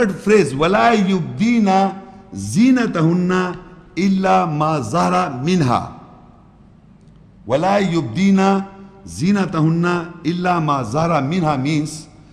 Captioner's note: Arabic